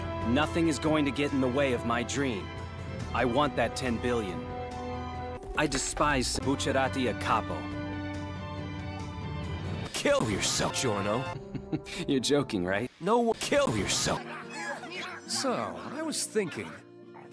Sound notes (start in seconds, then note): 11.3 laugh